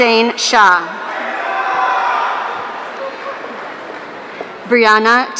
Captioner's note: audience cheering